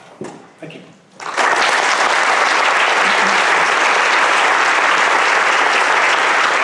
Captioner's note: applause